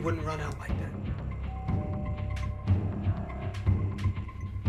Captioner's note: doorbell rings